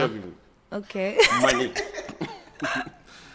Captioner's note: laughs